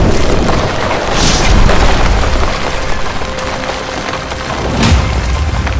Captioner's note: loud booms